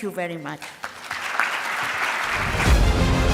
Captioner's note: audience applauding Loudly; dramatic orchestral music